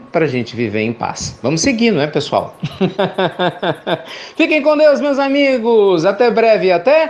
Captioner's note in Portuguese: Risos